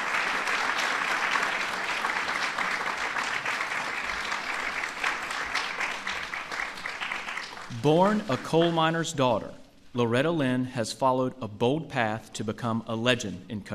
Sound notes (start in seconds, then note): 0.0 applause